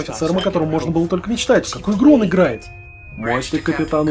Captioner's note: intercom whistle